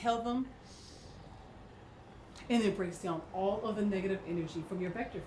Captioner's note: inhales